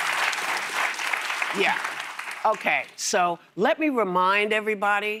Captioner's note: applause